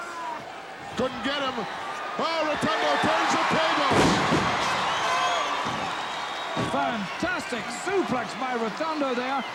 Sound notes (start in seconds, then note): 4.2 audience cheering